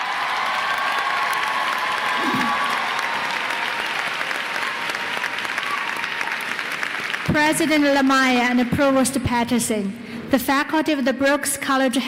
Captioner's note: applause